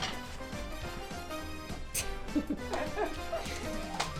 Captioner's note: laugh